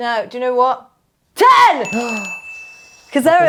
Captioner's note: bell dings